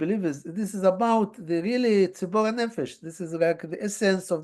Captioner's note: hebrew